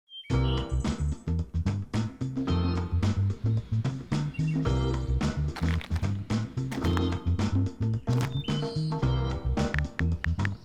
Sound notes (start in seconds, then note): 5.5 crunch; 5.5 more crunch; 8.0 even more crunch